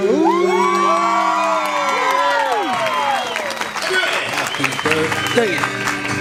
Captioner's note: crowd cheering and clapping